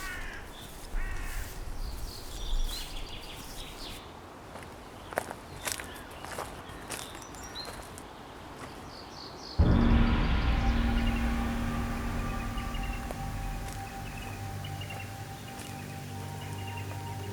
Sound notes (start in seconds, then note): 1.7 birds chirp; 9.6 gong crashes; 13.5 slow music